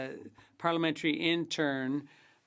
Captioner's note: speaking French